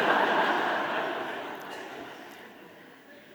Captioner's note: audience laughing